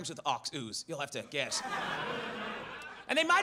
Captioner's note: audience laughs